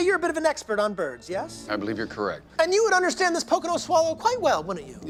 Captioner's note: none